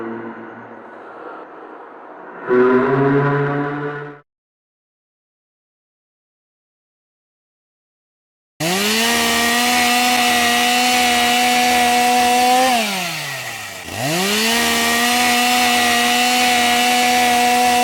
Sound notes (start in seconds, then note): 2.4 humming sound; 4.5 silence; 8.6 chainsaw sound